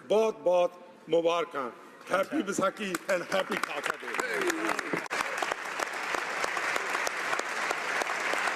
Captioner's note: speaking alternate language